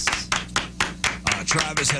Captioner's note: clapping